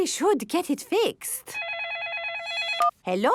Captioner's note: phone ringing